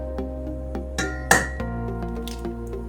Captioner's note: ting; crack